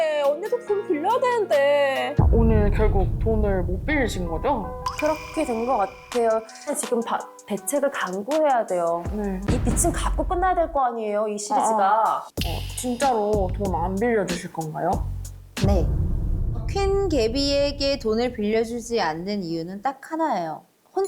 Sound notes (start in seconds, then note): 4.9 bitter sound effect; 15.9 firm sound effect